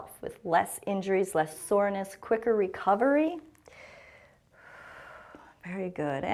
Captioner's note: exhales